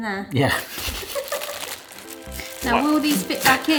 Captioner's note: giggling